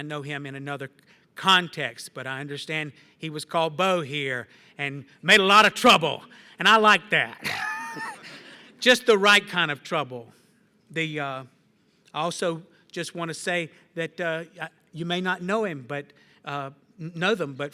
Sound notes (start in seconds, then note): 7.4 laughs